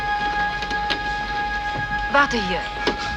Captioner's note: speaking german